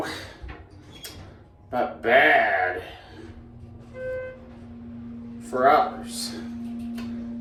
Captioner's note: elevator beeps